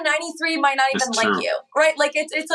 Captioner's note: echo